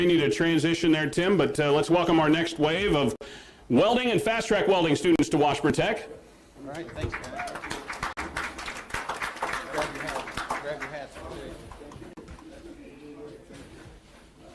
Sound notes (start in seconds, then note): 6.7 applause